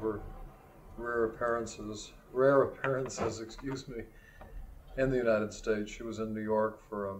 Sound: laughs

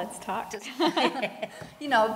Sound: laughter

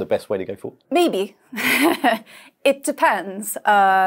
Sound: chuckles

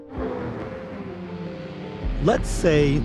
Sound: car engine whirring

